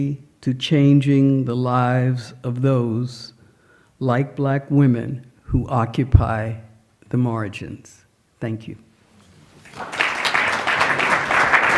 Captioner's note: applause